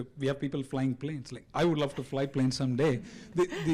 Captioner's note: giggles